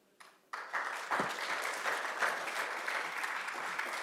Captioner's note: applause